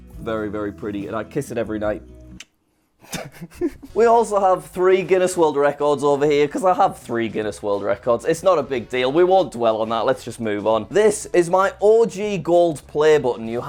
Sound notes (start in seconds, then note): 2.1 kiss smack; 3.0 laughs